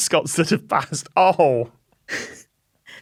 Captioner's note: snickers